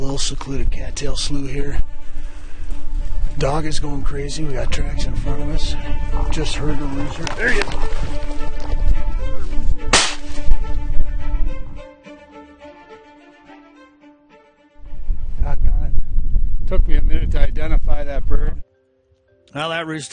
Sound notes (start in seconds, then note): 9.9 gun shoots